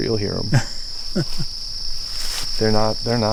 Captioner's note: laughing